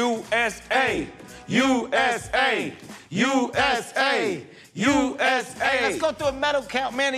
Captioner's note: both chanting "USA"